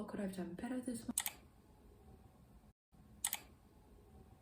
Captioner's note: click